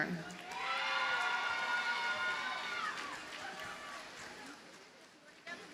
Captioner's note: audience cheers and applauds